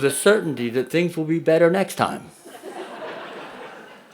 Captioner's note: audience laughs